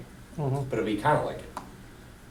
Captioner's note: voiceover